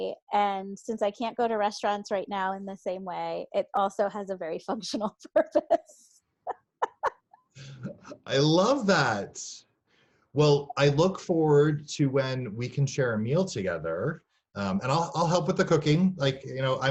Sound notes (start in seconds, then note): 6.8 laughs